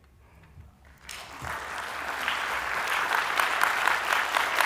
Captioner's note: applause